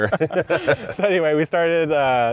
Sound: both laughing

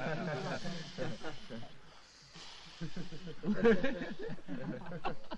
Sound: laughing in the background

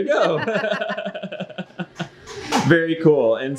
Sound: both laugh

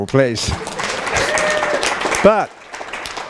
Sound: applause

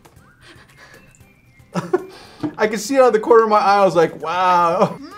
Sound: laughs

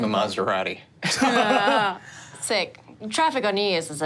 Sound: group laughing

